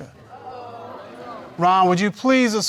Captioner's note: audience mumbles